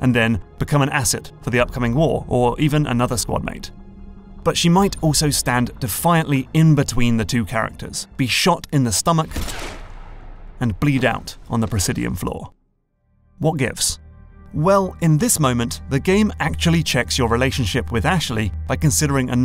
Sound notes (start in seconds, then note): 9.3 gunshot